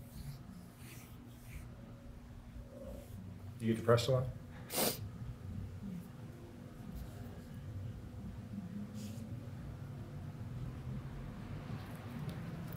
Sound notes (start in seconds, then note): 4.6 sniffling